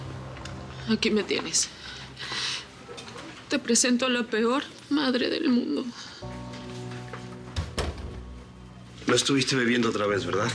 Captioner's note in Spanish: sollozos